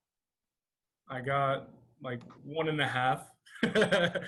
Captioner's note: laughter